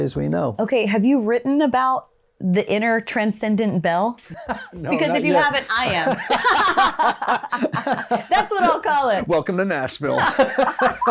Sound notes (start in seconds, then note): 4.2 both laughing; 4.3 laughs